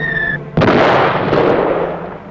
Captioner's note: explosion